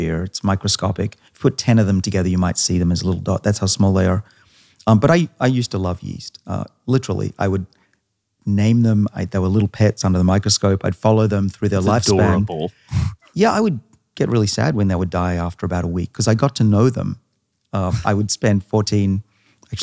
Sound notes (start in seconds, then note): 11.8 chuckles; 17.8 laughing